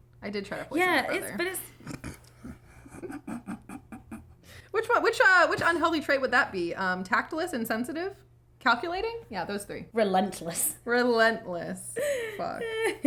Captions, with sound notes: I did try to poison my brother. (laughing) Which unhealthy trait would that be, tactless, insensitive? Calculating? Yeah, those three. - Relentless. - Relentless. Fuck.